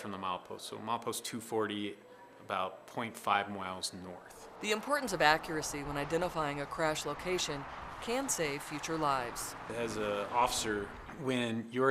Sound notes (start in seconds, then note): 3.4 sounds of vehicles driving on road